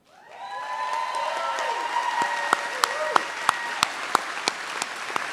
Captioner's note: audience cheers and applauds